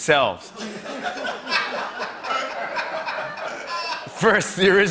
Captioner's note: laughter